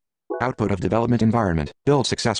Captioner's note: voiceover